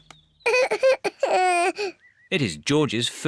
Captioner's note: cries